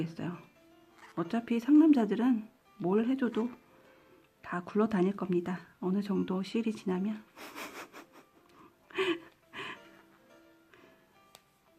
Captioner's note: giggles